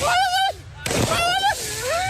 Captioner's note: screaming